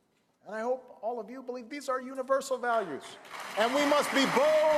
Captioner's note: applause